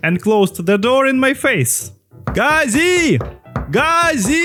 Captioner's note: knocking again